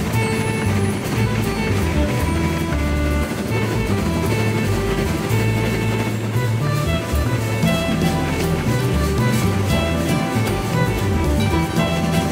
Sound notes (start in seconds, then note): 3.5 train chugging; 6.7 light upbeat music